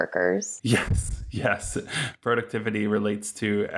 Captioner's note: chuckling